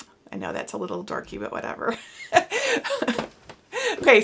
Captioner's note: laughs